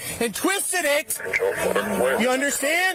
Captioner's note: radio chatter